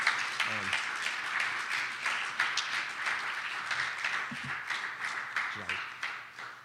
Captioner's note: clapping